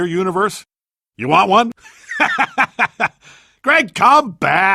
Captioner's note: laughter